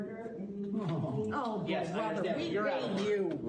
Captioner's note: crowd groans